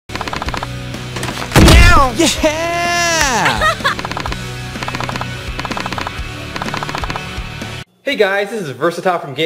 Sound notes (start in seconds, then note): 2.5 laughing; 4.0 alternative rock music